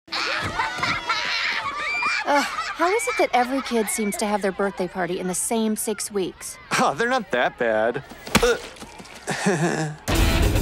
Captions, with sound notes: (LAUGHTER) Ugh, how is it that every kid seems to have their birthday party in the same six weeks? (CHUCKLES) They're not that bad. (CHUCKLES WEAKLY)